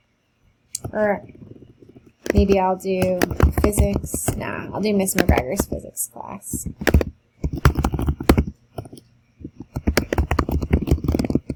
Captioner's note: keyboard typing